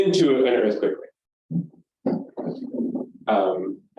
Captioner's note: microphone noise